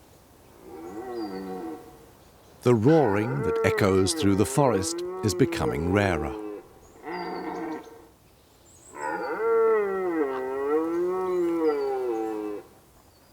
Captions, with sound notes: The roaring that echoes through the forest is becoming rarer. [stag roars]